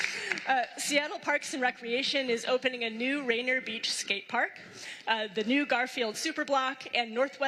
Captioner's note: applause